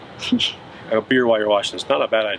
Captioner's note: laughs